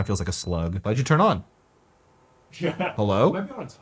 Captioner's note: fan beeps